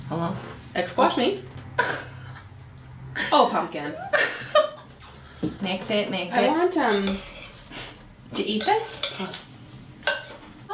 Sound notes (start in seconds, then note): 1.8 laughs; 3.9 laughs